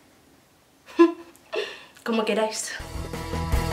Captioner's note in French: rires